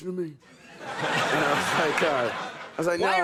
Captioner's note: audience laughing